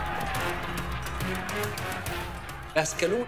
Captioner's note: dramatic music; distant shouting